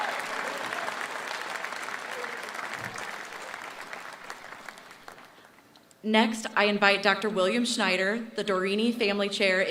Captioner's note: applause